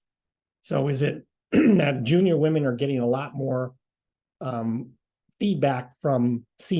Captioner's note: cough